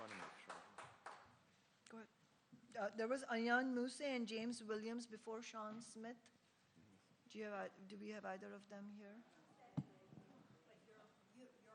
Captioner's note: applause